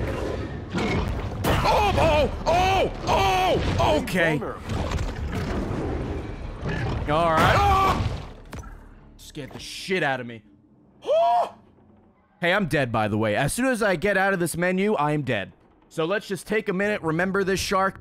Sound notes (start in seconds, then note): 10.1 exasperated noise